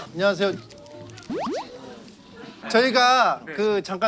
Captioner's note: throbbing